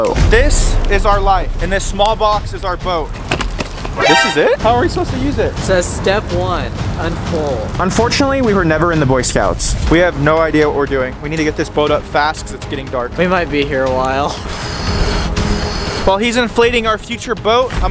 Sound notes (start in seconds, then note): 14.4 boat inflating